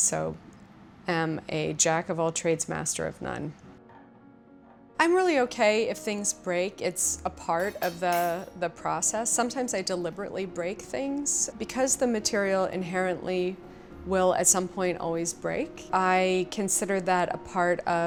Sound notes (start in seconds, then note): 7.6 glass breaks